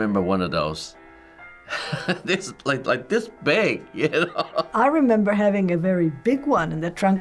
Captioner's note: chuckles